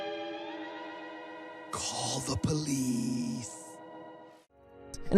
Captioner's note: whispering